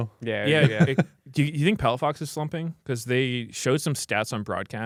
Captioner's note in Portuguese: risos